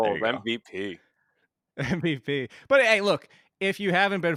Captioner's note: laughs